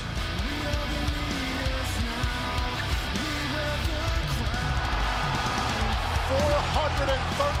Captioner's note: crowd cheering